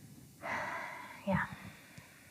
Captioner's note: sighs